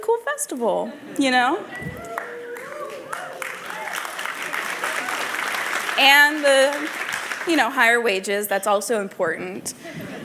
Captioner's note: applause